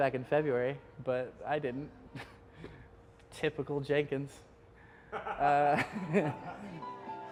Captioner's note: laughs